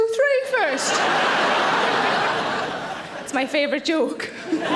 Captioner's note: audience laughing